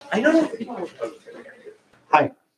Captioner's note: background chatter